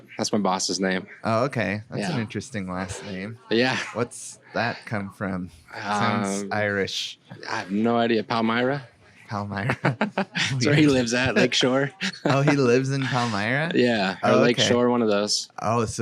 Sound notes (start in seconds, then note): 9.6 laughs